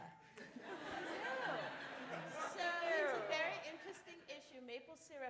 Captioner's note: laughter